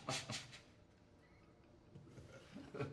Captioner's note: laughs